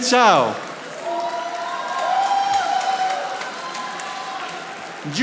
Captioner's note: audience applauding